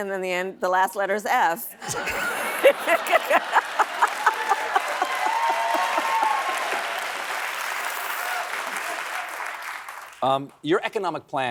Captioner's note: laughs